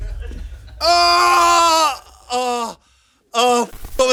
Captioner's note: groans